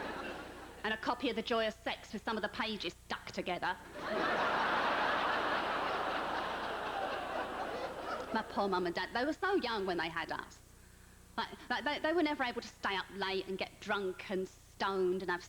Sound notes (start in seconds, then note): 4.0 howling laughter